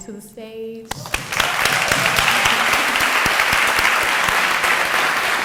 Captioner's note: audience applauding